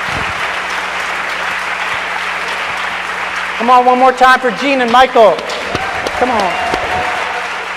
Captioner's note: applause